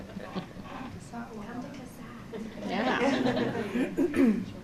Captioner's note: laughter